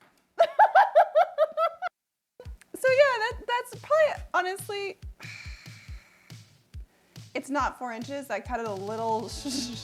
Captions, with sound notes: (laughs again) So yeah that's probably honestly, It's not four inches. I cut it a little short.